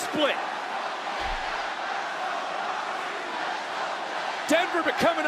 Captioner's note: crowd chants